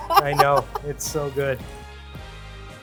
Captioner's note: laughs